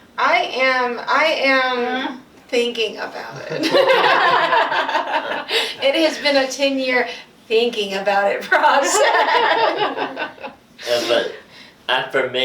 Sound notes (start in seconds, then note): 3.3 laughing; 8.6 laughing